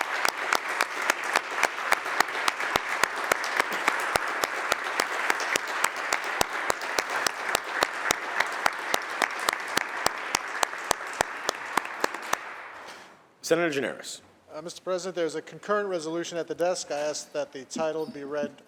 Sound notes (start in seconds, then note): 6.1 applause